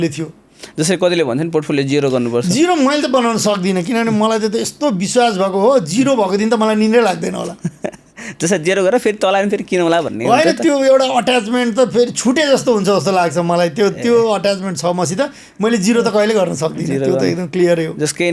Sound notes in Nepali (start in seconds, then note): 7.4 हास्य